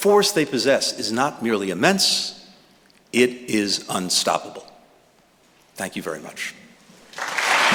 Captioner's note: applause